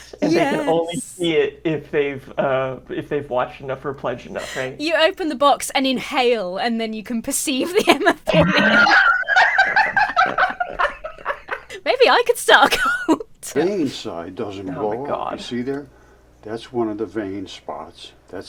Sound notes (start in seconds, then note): 7.6 both laugh